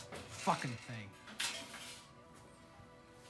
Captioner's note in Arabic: قعقعة